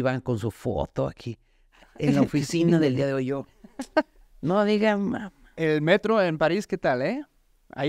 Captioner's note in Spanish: risa